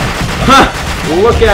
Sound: laughs

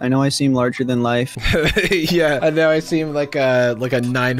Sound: laughs

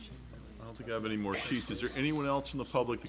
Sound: timer dings

